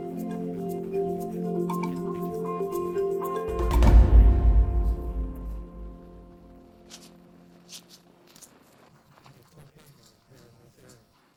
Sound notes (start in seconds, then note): 5.3 rustling and crunching